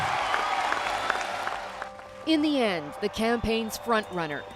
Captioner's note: applause